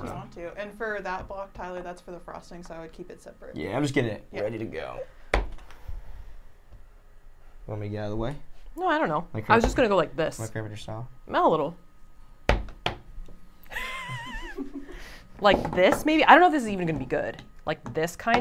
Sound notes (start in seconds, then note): 13.6 chuckling